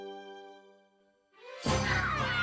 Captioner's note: upbeat music starts; cheering